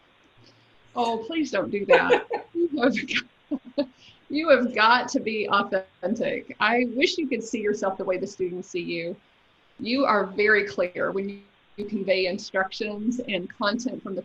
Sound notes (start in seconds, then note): 1.6 laughs